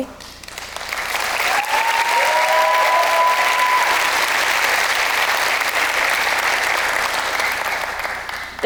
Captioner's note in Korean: 박수